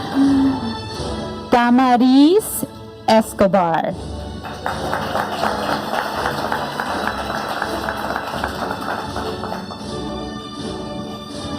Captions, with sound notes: Damaris Escobar. (audience applauding) (upbeat music)